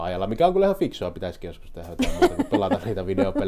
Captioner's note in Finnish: naurahtaa